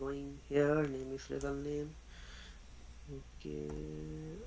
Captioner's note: mumbling